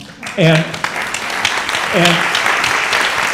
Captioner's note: applause